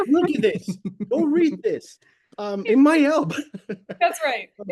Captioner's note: laughs